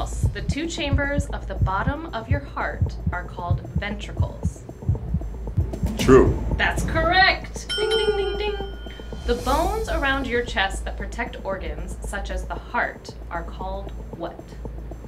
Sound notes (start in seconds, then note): 7.6 dinging